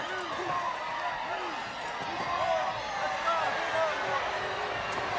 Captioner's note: crowd roars